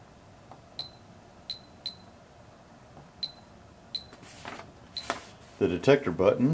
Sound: beeps

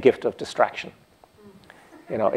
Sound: laughter

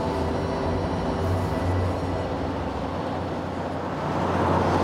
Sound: wind howls

